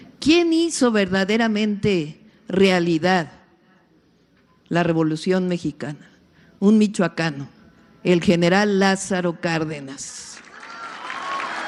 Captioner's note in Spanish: aplausos